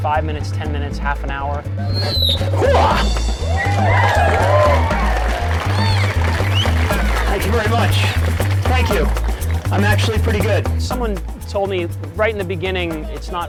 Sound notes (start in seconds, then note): 1.8 strains; 4.6 audience cheering and applauding